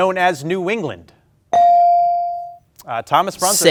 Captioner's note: ding chimes